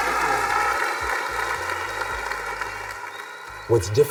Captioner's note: students clapping